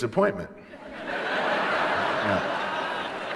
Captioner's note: laughter